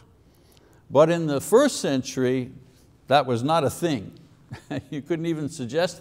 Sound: chuckles

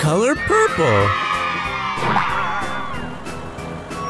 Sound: cheers

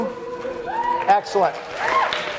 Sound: class applauding; class cheering

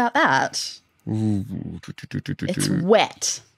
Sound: murmuring

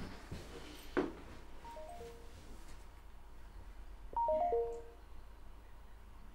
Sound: message tone

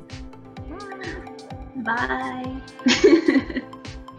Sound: laughter

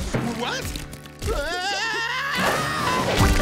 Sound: screaming

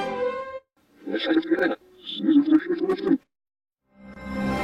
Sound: orchestral music plays backwards; PC voices speaking backwards; orchestral music plays backwards

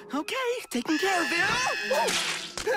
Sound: pie screams

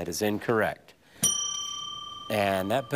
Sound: bell ringing

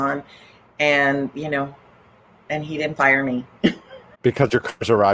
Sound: laughs

